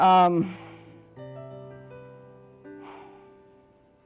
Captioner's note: breaths deeply